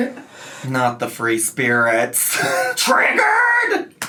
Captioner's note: chuckles